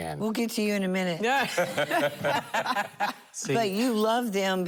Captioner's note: laughter